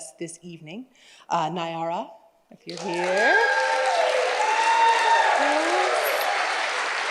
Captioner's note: audience applauds and cheers